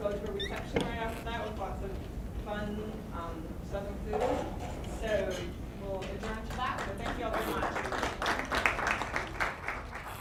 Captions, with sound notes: and then we'll go to a reception right after that, with lots of fun southern food, so well adjourn to that. (applause) So thank you all so much. (applause)